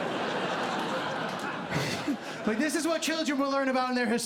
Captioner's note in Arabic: ضحك; يضحك